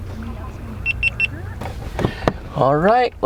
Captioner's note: GoPro beeping